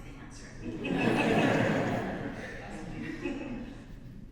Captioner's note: audience laughs